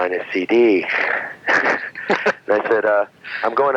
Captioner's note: laughing